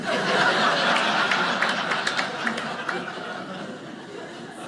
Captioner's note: audience laughing; audience clapping